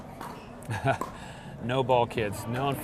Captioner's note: laughs